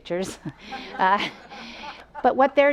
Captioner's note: audience laughs